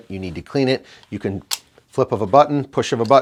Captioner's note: clicking sound